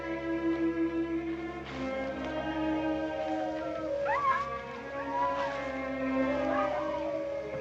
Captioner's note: coyotes yipping, howling